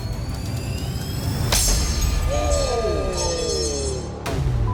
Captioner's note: metallic snap